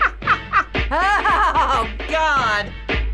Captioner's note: chuckling; laughs; snazzy music